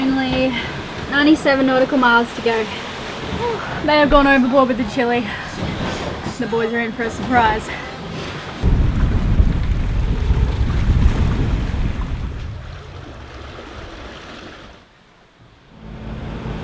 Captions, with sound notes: Only 97 nautical miles to go. Whoo, may have gone overboard with the chilli. The boys are in for a surprise. (wind rushing) (waves lapping)